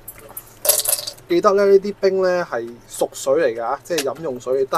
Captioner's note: drinking